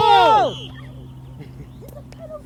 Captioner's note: referee blows whistle